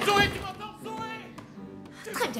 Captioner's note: pounding